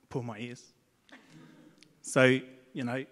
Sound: audience laughs

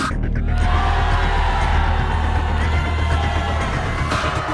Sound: booing

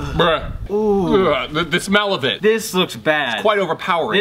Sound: gagging

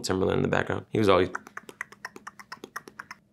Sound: imitating Timberland

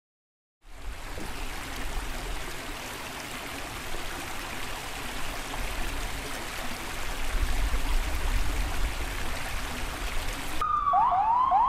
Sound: water flowing; sirens

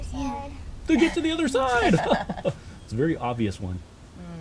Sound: laughter

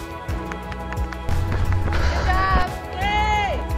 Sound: crowd applauding

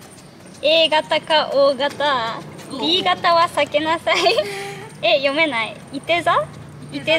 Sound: laughs

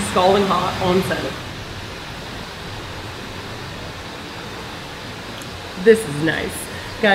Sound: water rushing & moving over rocks

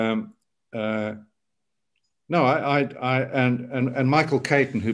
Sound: fumbling over words

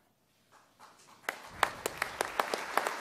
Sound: applause

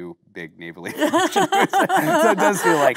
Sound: both laughing

